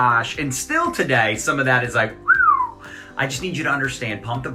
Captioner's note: whistles